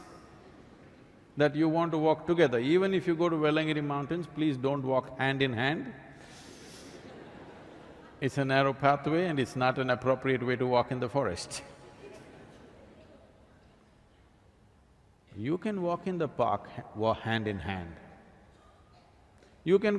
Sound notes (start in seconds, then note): 6.9 laughter; 13.7 laughs